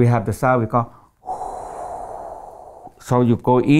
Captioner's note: air blowing through mouth